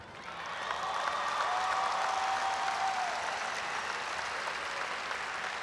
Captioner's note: audience applauds and cheers